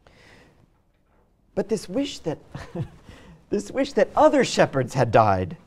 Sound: laughs

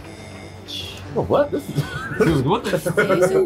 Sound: laugh

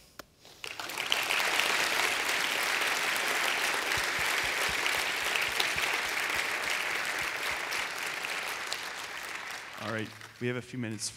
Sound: applause

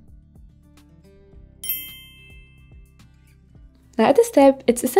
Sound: bell chiming

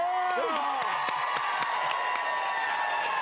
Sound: cheering

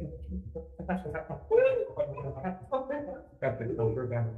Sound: committee members cheering and laughing

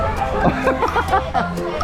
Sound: laughing

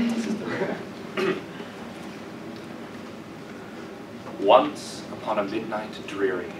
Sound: cough

